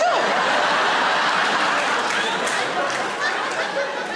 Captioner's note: audience laughing